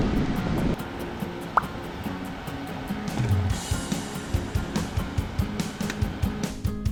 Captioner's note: battery swapping